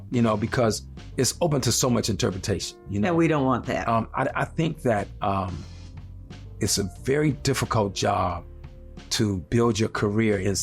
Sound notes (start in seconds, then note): none